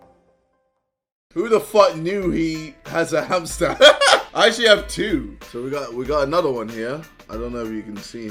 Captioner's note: laughs